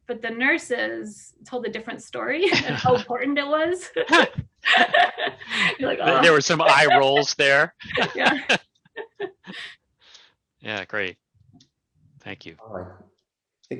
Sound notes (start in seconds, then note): 4.0 chuckling